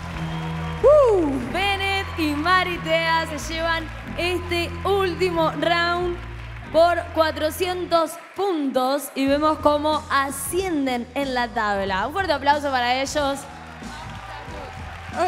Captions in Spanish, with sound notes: Bnet y Marithea se llevan este último "round" por 400 puntos y vemos cómo ascienden en la tabla. Un fuerte aplauso para ellos. (Aplausos)